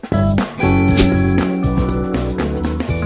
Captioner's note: swish